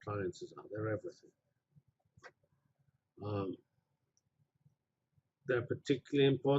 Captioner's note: pause